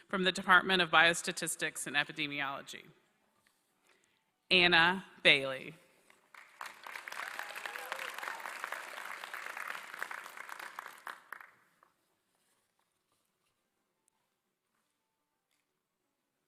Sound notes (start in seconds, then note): 6.0 applause